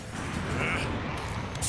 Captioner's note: grunts